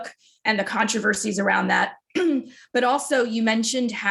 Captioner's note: clears throat